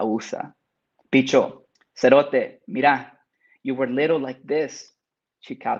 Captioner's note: speaks in Spanish